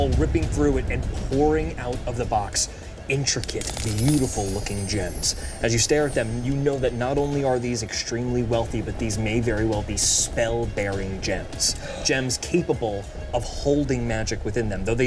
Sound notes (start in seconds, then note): 11.8 Odie gasps